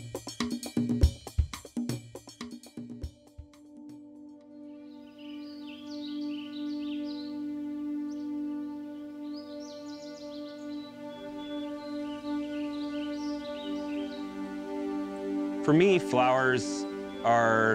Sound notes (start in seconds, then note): 0.0 percussive music; 2.7 ethereal music; 6.1 birds singing